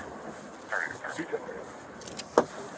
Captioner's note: radio chatter